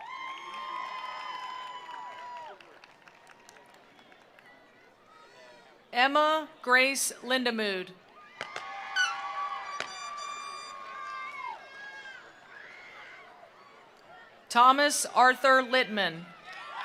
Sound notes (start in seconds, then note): 0.0 attendees cheering; 0.0 attendees applauding; 8.1 attendees cheering; 8.4 attendees applauding; 15.2 attendees cheering; 16.5 attendees applauding